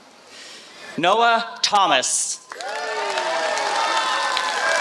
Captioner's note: applause